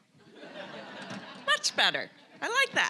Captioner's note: audience laughing